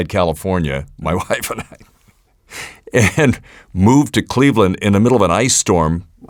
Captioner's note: laughs